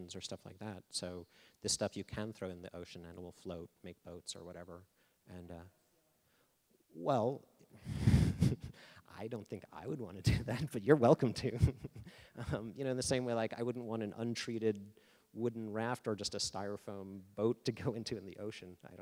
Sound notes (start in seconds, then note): 7.9 laughing; 11.4 laughing